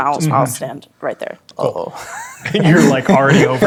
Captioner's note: chuckles